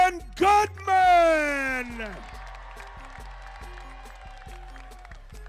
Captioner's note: crowd cheering